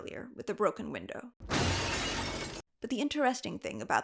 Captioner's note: glass breaking